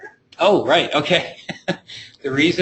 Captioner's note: chuckling